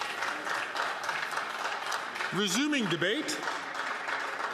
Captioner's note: some Applause